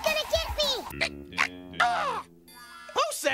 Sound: Scratch grunting

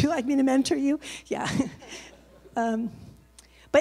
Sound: laughs

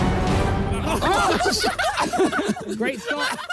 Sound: players laugh

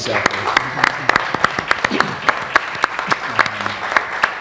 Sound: applause

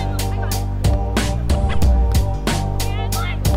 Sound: players communicating

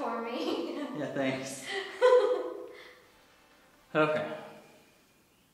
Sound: laughs

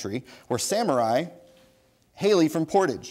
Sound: bell dings

